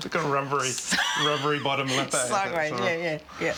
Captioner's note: laughs